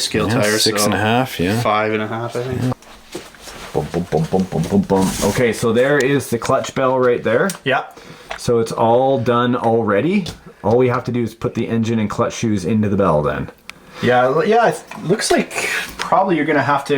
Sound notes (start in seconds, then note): 0.7 voiceover; 3.8 hums; 5.5 voiceover; 7.8 voiceover